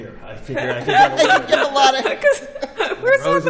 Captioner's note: laughter